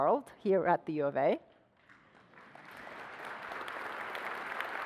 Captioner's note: applause